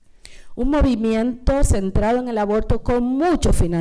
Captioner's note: speaking spanish